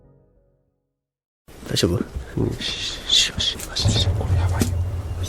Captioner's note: shhh